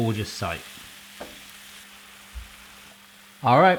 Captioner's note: sizzling